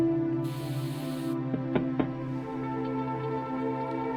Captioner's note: knocking on window